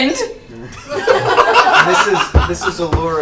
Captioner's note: all laugh